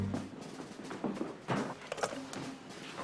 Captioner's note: clattering